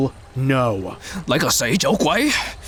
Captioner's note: in Cantonese